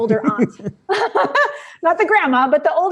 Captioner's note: laughing